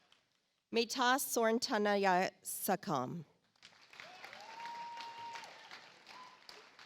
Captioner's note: audience applauds